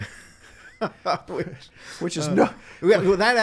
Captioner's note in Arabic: ضحك